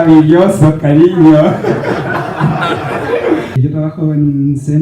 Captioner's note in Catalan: rialles